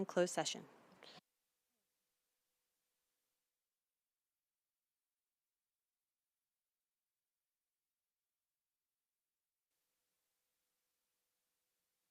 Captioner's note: silence